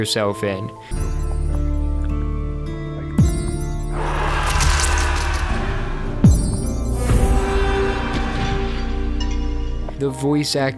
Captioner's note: applause like sound idk